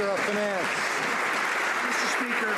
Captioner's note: some Applause